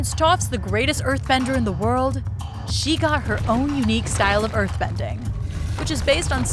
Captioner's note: groaning